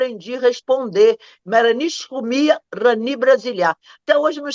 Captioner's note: speaks in Algerian Arabic